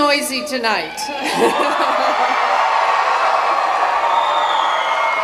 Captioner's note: cheering